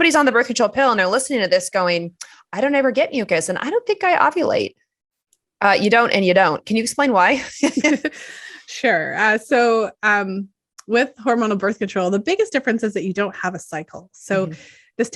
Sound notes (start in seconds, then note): 9.1 chuckles